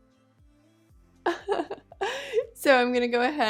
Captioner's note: chuckles